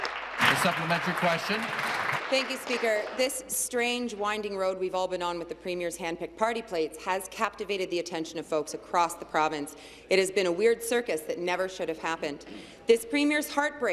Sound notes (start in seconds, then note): 3.0 applause